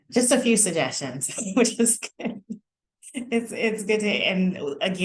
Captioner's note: laughter